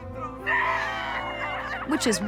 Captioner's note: cheering loudly